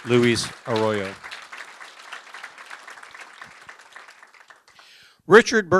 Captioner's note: applause